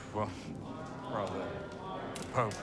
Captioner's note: crowd